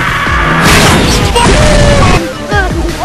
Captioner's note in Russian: бум